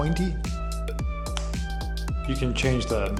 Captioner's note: fingers snapping